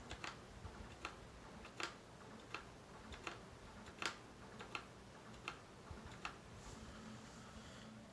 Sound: Famicom AV being soft reset 9 times

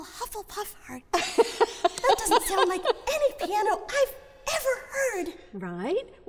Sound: laughs

